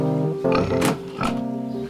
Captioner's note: grunts